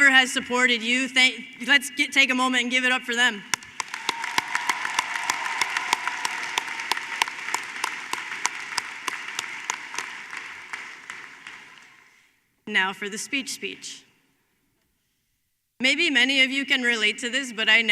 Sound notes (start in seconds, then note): 8.5 applause